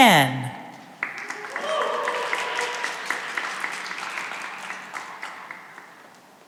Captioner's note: cheering and applause